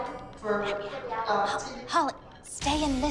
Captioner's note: whispers